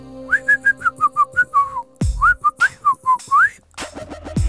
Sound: whistles

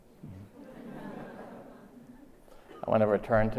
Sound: laughter

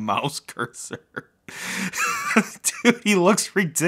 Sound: laughing

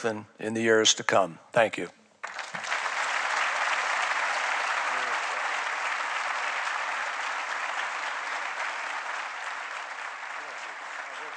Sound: applause

